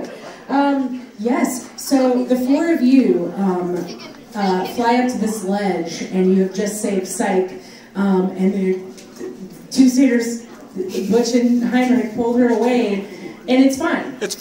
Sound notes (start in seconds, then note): none